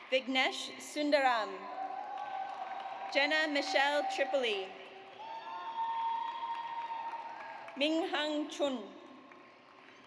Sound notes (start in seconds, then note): 1.8 audience cheers; 5.2 audience cheers